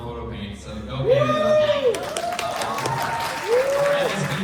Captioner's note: applause